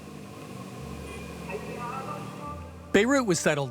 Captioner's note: car engine humming, voice over loudspeakers